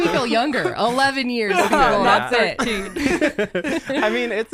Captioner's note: everyone laughs